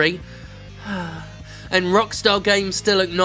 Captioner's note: sigh